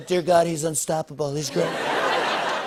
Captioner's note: laughter